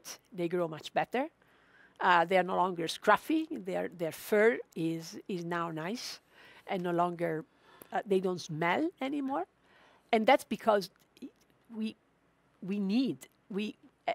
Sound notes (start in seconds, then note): none